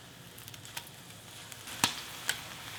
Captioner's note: sizzling